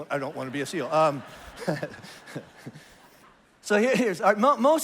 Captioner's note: congregation laughs